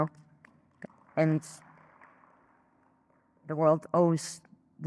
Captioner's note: audience clapping